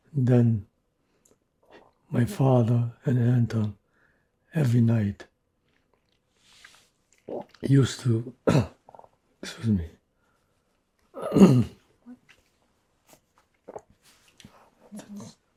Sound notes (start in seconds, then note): 8.4 clears throat; 8.4 throat-sound; 11.1 clears throat; 11.9 pauses 6 seconds